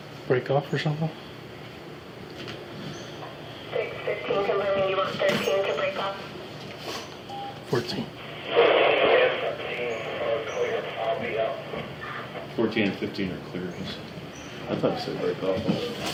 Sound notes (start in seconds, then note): 3.6 radio chatter; 7.5 radio chatter